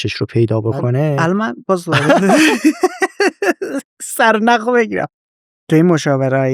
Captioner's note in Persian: خنده